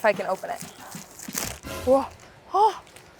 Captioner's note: paper rustling